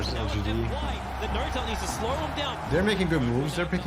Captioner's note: crowd continues cheering